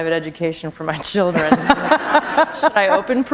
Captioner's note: laughter